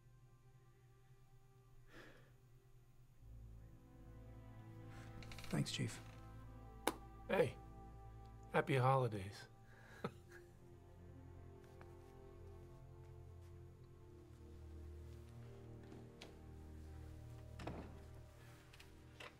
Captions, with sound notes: - Thanks, Chief. - Hey, Happy Holidays. (Chief chuckles) (gentle music)